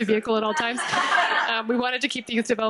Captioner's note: audience laughing